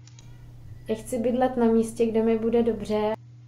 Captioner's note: speaking in Czech